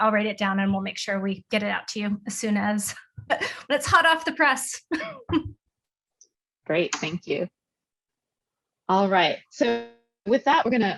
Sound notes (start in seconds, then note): 5.1 laughing